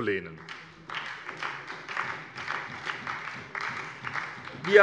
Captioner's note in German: Beifall bei der SPD